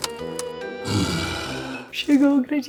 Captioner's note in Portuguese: Bocejo